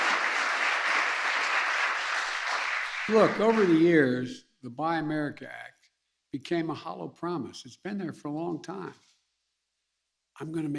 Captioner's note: applause